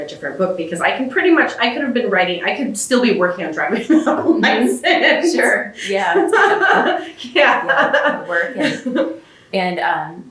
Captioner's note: laughs